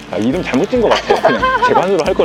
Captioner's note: laughter